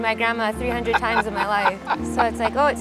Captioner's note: Baratunde laughing